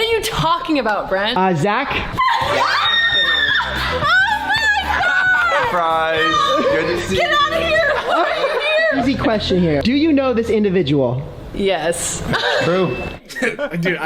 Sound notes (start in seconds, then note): 2.2 screaming; 4.9 laughter